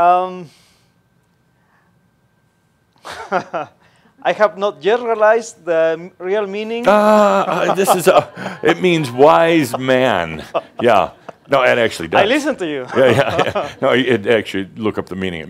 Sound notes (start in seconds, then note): 3.0 he pauses, then chuckles; 6.8 continues chuckling; 13.0 they chuckle